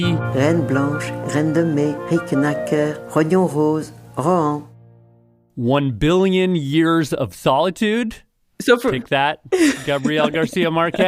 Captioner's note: speaking French; laughs